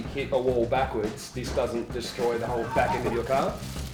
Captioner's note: laughs